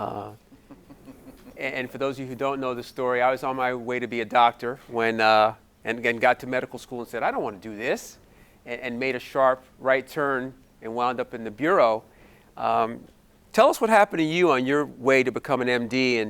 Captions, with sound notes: (audience giggling) And for those of you who don't know the story, I was on my way to be a doctor and got to medical school and said, "I don't wanna do this" and made a sharp right turn and wound up in the bureau. Tell us what happened to you on your way to become an MD